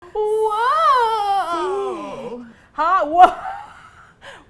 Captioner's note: excitedly